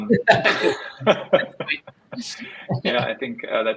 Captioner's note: both laughing